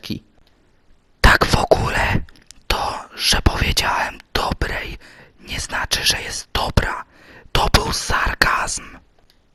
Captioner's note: whispering